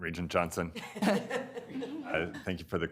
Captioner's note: all laughing